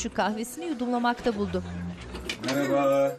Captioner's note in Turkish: Kapı açılma sesi